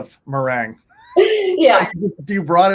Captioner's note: laughs